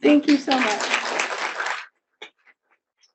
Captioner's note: audience claps